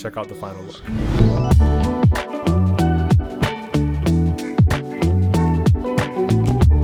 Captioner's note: upbeat music; graphic whooshes